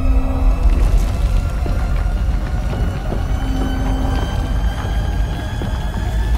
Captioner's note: earthquake